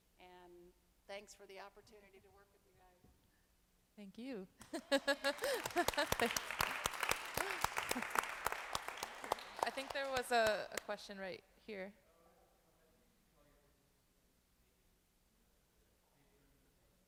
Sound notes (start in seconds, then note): 4.6 laughing; 4.6 applauding